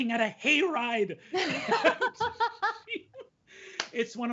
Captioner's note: laughing